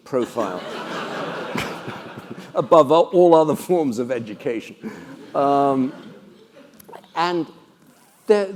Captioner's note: laugh